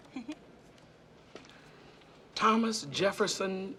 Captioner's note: giggling